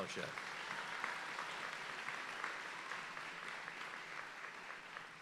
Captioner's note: audience applauding